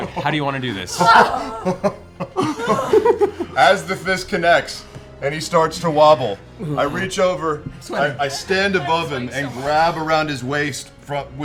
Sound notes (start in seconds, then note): 0.0 laughs; 0.7 chuckles